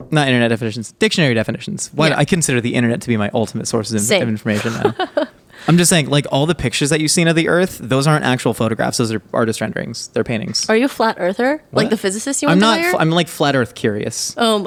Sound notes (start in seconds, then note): 4.5 laughing